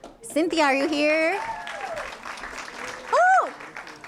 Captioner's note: applause